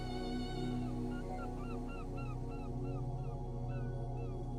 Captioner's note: seagulls crying